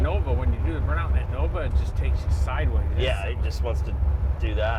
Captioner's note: car engine roaring